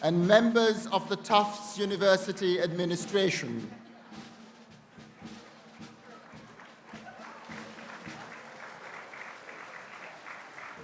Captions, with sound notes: and members of the Tufts University administration. (people applauding)